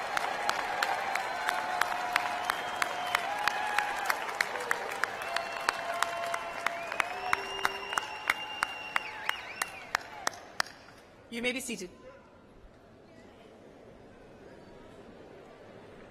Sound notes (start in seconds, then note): 4.0 cheers and applause